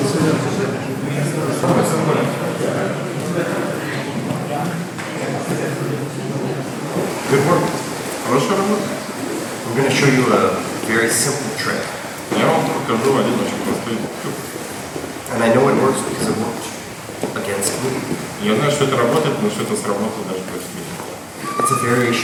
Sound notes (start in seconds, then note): 8.6 speaking in a foreign language; 12.8 speaking in a foreign language; 18.8 speaking in a foreign language